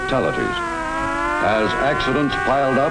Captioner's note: sirens wailing